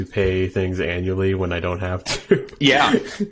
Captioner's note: laughing